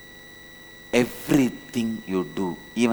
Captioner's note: hindi